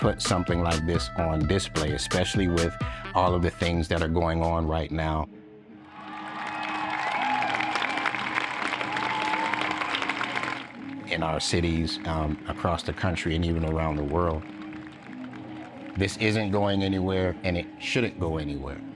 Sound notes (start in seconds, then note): 6.1 applause